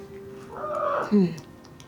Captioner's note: kitty squawks